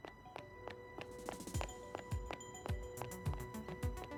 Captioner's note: running steps